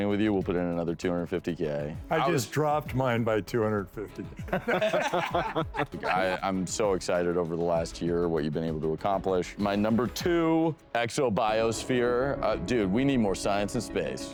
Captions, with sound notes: with you, we'll put in another 250K. - I just dropped mine by 250K. (laughing) - I'm so excited over the last year what you've been able to accomplish. My number two, Exobiosphere. Dude, we need more science and space.